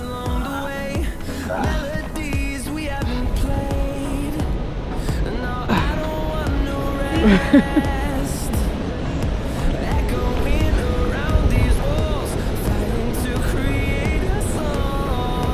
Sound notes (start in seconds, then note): 3.3 sound of river running